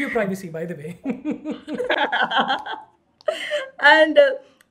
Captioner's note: both laughing